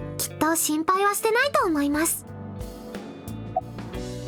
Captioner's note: none